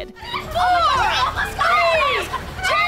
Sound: arguing

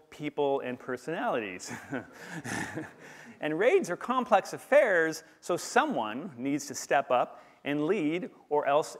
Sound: laughter

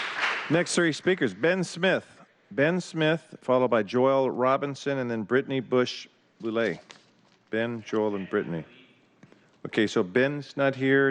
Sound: applause

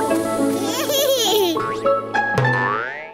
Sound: giggles

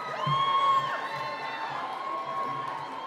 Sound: cheering

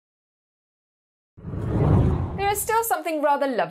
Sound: hard whooshing

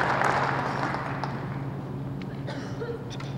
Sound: applause

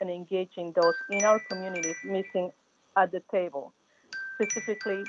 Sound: chime

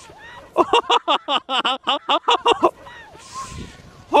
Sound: laughing

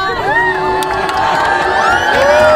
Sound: cheering

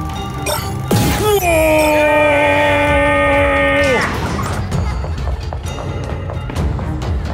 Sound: screams

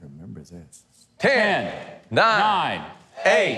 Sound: crowd

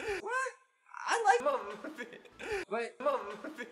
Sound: laughing

